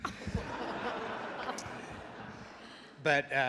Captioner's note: audience laughs